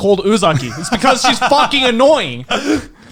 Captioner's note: laughs